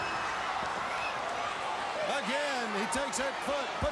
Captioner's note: crowd cheering